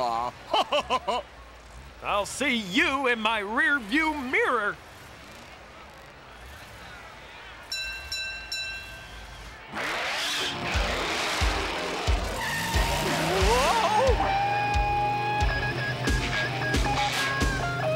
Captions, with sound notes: (LAUGHS) I'll see you in my rearview mirror. (BELL CLANGING) Whoa!